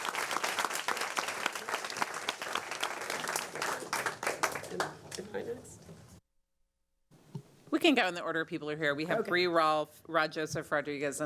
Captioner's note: applause